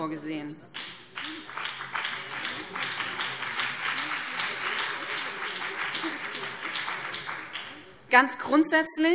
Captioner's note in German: Beifall BÜNDNIS 90/DIE GRÜNEN und vereinzelt CDU